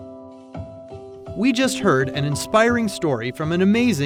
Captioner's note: voiceover